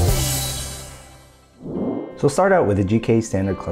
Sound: whoosh

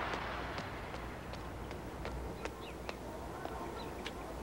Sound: footsteps pattering

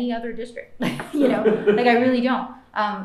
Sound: laughter

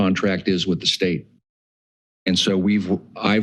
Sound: pause

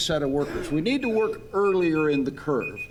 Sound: timer beeping

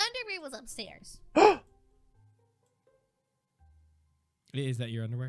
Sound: Unicorn Mann gasps

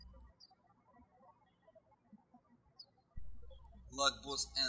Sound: birds chirping

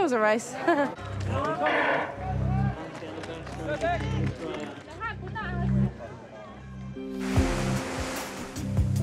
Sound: chuckles

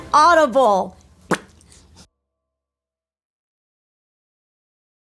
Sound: Nancy pops mouth

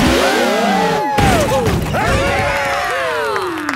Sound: crowd; applause

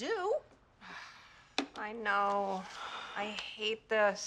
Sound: sighs

